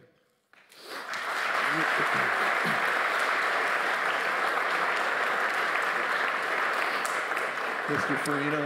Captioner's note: applause